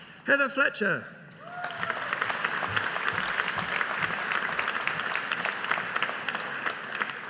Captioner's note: audience applauding